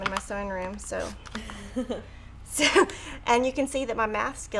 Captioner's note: laughs